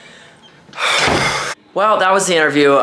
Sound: sighs

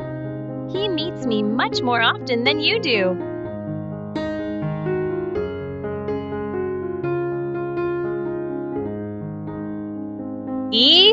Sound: in a low voice

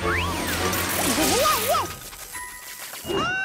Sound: sputtering

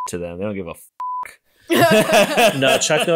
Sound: beep

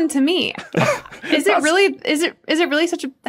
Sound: crack up

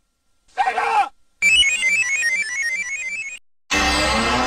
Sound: screaming; descending video game sounds; 64-bit console startup music

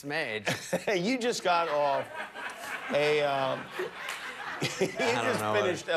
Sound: laughter

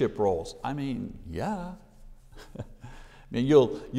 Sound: chuckles

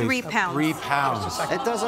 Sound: spectators "aww"

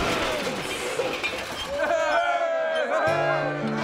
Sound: crowd cheering

